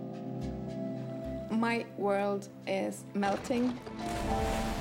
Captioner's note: cracking